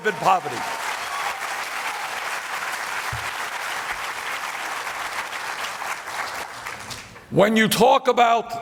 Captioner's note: applause